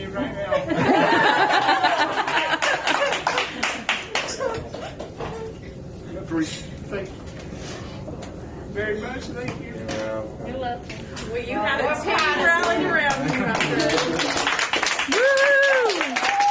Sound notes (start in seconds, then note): 0.5 staff laughing; 7.9 crying; 12.1 staff clapping and cheering